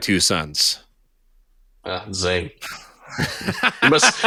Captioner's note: laughing